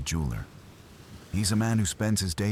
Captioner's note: wind Blowing